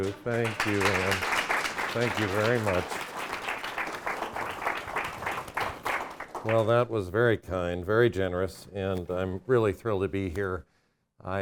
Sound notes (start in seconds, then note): 2.9 audience applauding